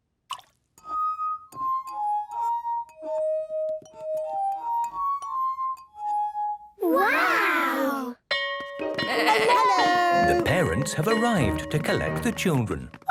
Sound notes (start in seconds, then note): 0.2 water drips; 0.3 glasses vibrate melodically; 8.7 bell ringing